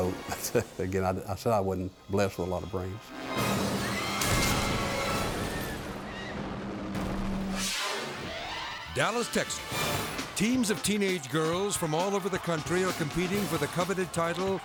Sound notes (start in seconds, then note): 4.5 dramatic music; 4.5 spectators screaming